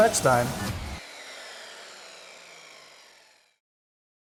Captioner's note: saw buzzing